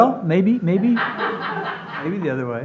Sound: audience laughs

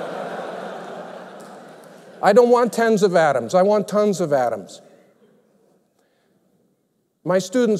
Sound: laughter

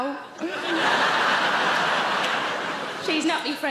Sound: audience laughing

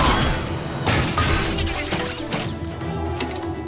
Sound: clanking

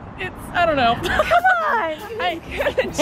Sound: laughter

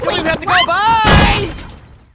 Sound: door slams

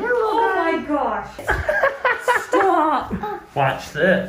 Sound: laughs

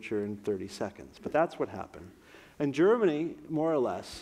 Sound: none

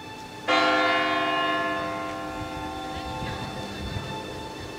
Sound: church bells ringing

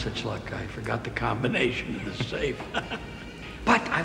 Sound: laughs

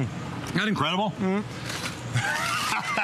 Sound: laughter

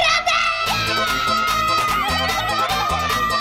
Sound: screaming

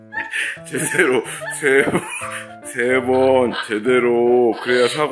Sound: laughing

